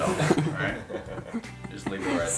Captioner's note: all laughing